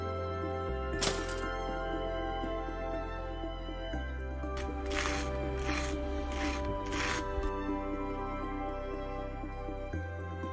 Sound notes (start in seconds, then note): 1.5 toaster pops; 4.6 toast crunches